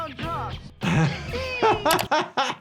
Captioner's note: both laughing